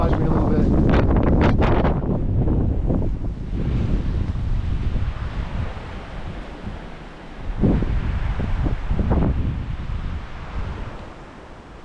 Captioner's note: wind blowing very hard